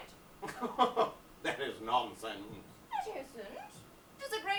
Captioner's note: chuckles